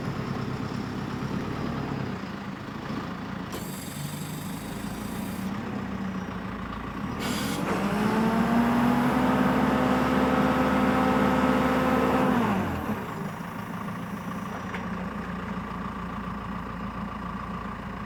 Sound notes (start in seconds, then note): 5.2 truck whirring